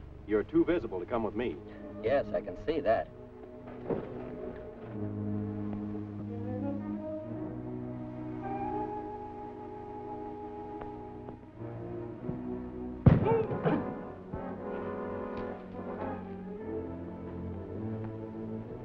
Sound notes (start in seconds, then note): 6.7 tense music; 13.2 grunts